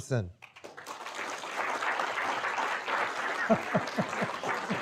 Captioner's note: audience applauding